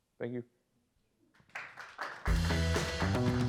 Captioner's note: applause; lively music